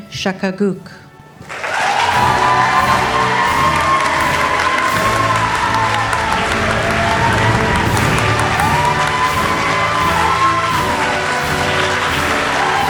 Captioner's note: all applauding